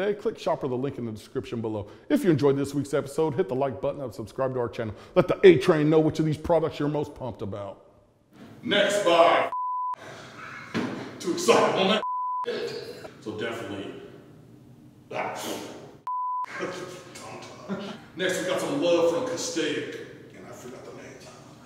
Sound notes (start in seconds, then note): 9.5 beep; 12.0 beep; 16.0 beep; 16.4 sneeze